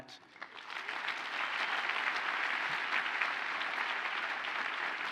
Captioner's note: audience applauds